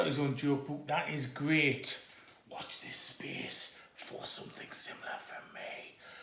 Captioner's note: does a comedy whisper